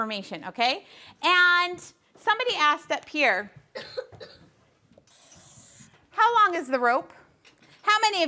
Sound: coughing

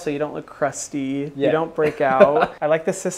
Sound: laughs

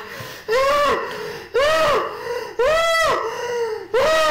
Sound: woman screams

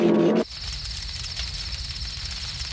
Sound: fire crackling

